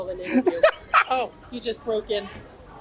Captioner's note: laughs